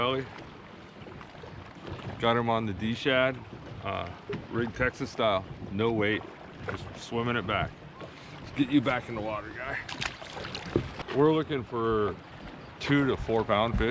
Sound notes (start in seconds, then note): 9.6 fish splashing